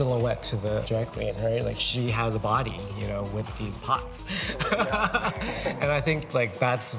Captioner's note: chuckles